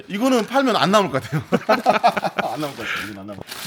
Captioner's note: laughs